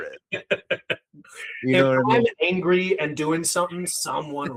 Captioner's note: laughing